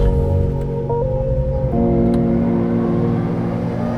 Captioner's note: mellow music; engine revving